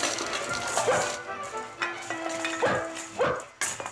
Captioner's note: dog barking